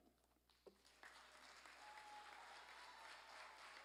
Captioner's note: applause